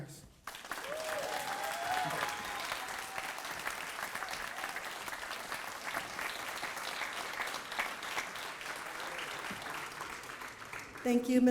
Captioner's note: applause